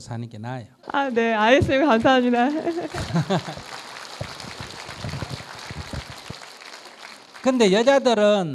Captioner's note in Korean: 스님/청중 웃음